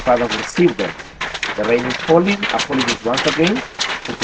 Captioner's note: with a deafening sound on the roofing here